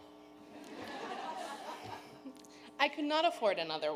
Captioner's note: audience laughing